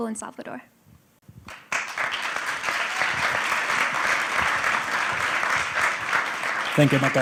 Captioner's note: applause